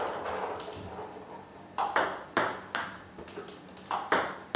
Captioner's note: ball ping pong hitting continues